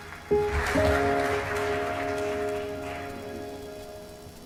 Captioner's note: applause